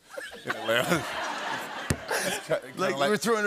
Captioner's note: laughter